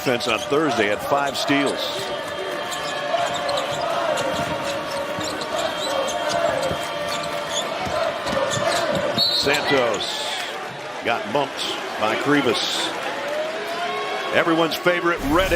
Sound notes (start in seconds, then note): 9.2 whistle